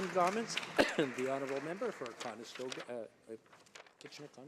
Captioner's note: some Applause